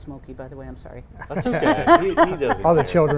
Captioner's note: laughing